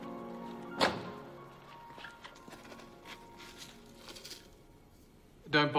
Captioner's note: coroner's van door slams shut